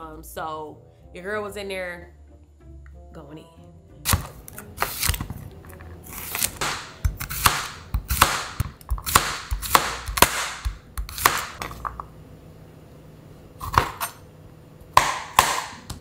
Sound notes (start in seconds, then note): 4.5 chopping board clacking; 6.0 veggies rasping